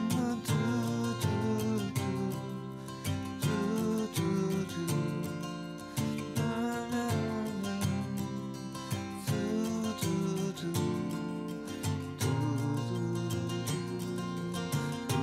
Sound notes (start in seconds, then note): 5.9 humming